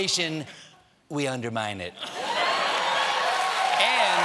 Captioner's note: laughter; cheers and applause